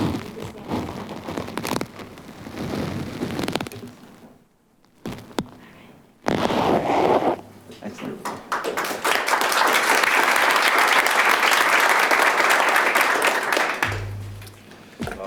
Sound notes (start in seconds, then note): 0.9 woman speaking faintly; 8.2 audience applauding